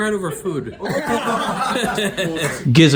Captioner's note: laughs